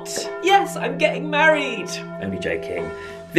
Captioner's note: wedding bells ringing